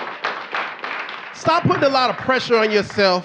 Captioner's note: audience clapping